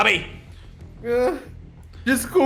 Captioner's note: cries